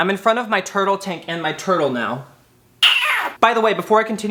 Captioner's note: screeching